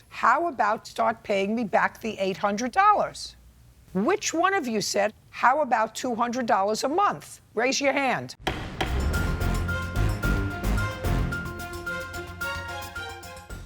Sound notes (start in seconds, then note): 8.4 gavel banging; 8.4 dramatic music